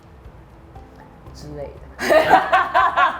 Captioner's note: laughs